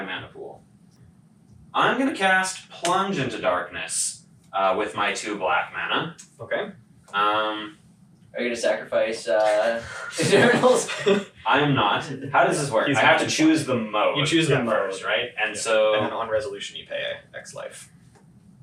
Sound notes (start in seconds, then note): 9.3 laughs